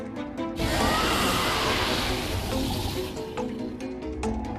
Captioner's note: roar